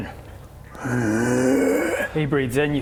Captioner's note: inhale